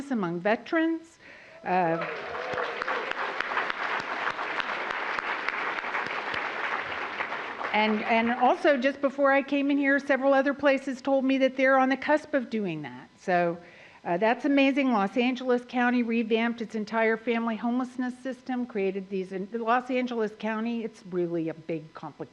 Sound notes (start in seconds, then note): 4.0 applause